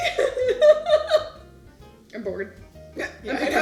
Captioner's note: laughs